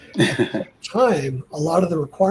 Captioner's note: laughs